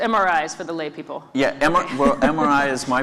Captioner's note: laugh